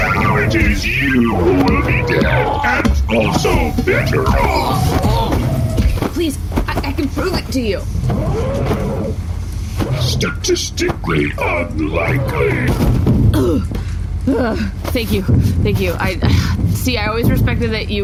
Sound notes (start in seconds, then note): 6.6 choking; 15.3 gasping